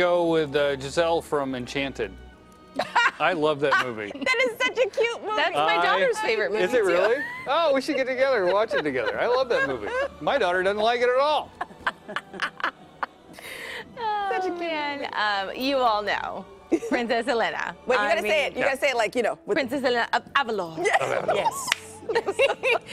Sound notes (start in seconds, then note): 19.3 laughter